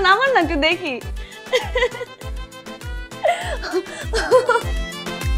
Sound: laughs

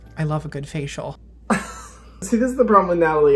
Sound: laughs

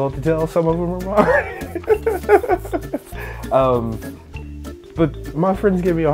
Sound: laughter

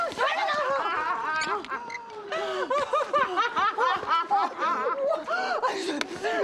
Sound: Ellen Laughing

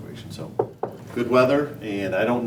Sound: knocking sound

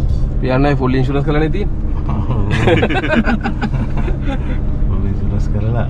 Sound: laughing

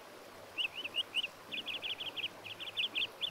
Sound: bird chirping

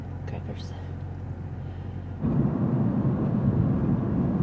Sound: wind

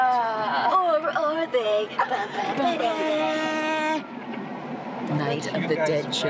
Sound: mock screaming

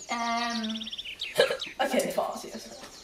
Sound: hiccup

